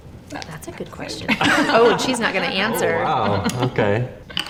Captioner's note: other interviewee laughs